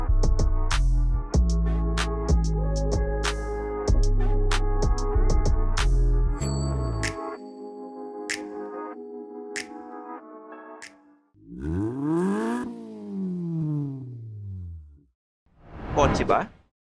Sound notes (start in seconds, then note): 11.4 engine revs